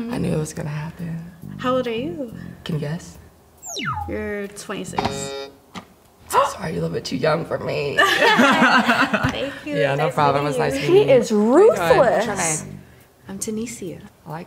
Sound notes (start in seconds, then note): 3.6 button beeps; 5.0 button buzzes; 9.0 laughs